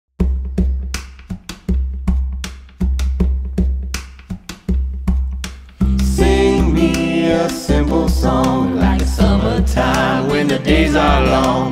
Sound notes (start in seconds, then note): 0.0 rhythmic Tapping; 6.0 singing